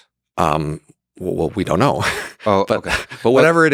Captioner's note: chuckles